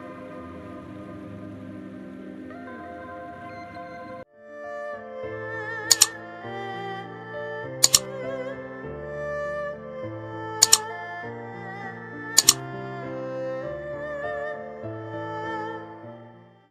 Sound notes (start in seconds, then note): 0.1 gentle music; 5.9 keyboard clicking; 10.6 keyboard clicking; 13.6 gentle music